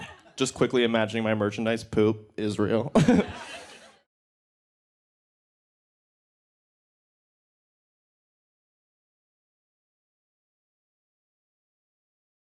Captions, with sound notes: I'm just quickly imagining my merchandise poop is real. (laughs) (crowd laughs)